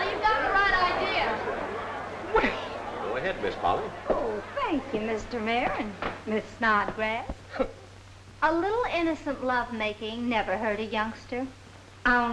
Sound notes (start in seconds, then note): 7.8 Minerva scoffs